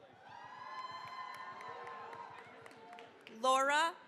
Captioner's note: cheering, applause